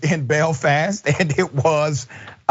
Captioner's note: laugh